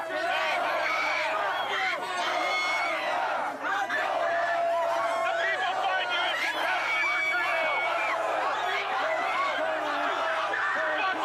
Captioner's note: screaming